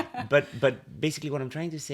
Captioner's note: laughter